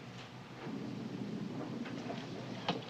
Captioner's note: door slides open